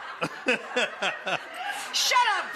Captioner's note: Buddy laughing